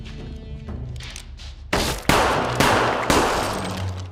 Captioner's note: gun firing